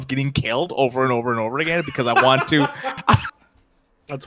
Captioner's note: laughs